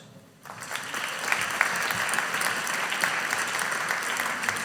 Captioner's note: audience applauding